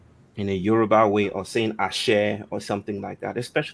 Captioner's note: non-english